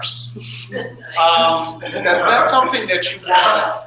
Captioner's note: laughter